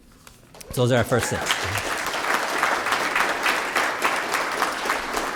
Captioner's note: applause